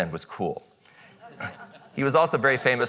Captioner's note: audience chuckles